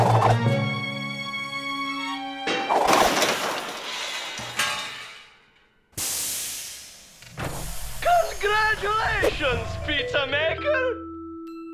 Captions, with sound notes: (steam hissing) CONGRATULATIONS, PIZZA MAKER.